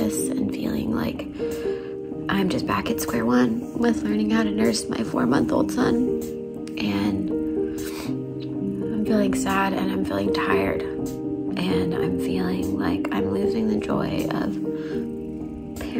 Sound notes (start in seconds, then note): 7.8 sniffs